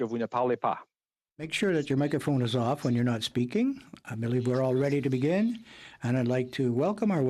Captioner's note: speaking French